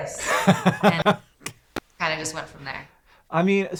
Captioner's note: laughs